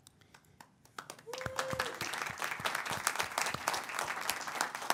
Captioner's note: audience applauds